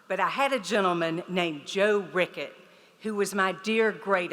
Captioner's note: none